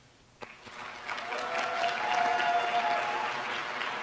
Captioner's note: applause